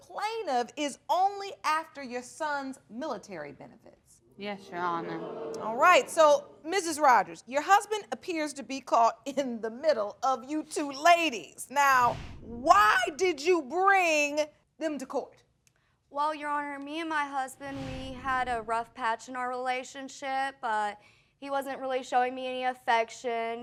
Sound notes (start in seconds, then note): 4.7 audience gasps